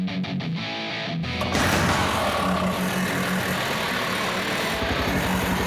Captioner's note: engine roaring